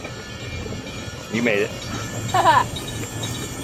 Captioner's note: laughter